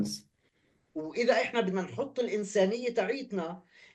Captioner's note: speaking arabic